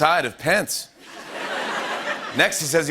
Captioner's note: laughter